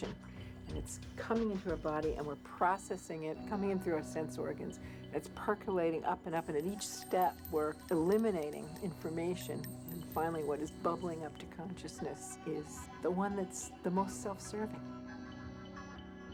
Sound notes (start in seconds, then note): 6.3 jingling